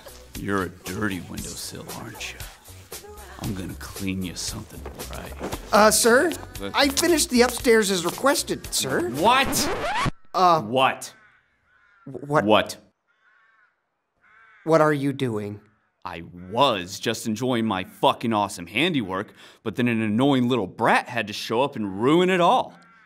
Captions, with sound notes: You're a dirty windowsill aren't ya? I'm gonna clean ya something right. Uh, sir? I finished the upstairs as requested sir. What?! *music needle scratches* uh, What?! wha- wa- What? What are you doing? I WAS just enjoying my fucking awesome handiwork but then an annoying little brat had to show up and ruin it all.